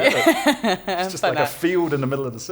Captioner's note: laughter